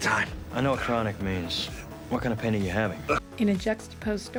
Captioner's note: groans